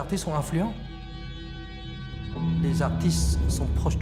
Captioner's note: speaking French